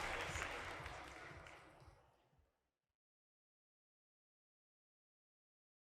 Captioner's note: applause